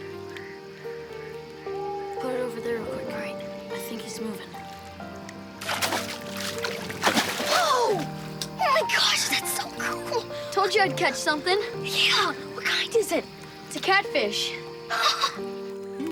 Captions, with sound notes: - Put it over there with the light, I think he's moving. (water splashes) - Oh, oh my gosh, that's so cool. - Told you I'd catch something. - Yeah, what kind is it? - It's a catfish. (laughs)